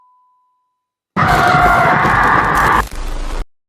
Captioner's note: John screams